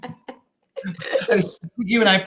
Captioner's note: laughter